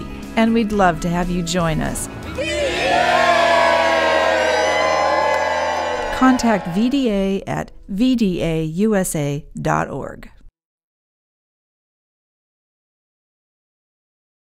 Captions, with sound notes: and we'd love to have you join us [crowd] VDA! contact VDA at vdausa.org